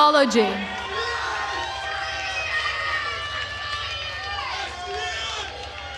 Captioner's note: attendees cheering and applauding